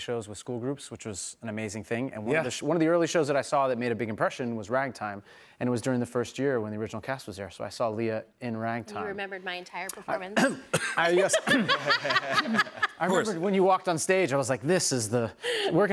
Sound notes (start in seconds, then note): 10.3 coughs; 10.8 laughter